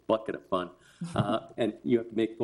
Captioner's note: people chuckling